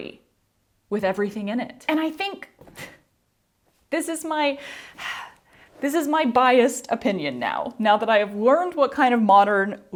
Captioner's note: sigh